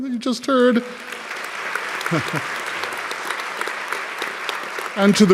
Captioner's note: audience clapping